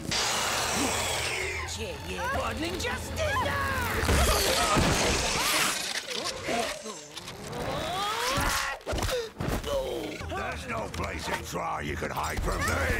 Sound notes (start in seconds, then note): 0.1 screeches; 3.9 thuds; 9.5 groans in pain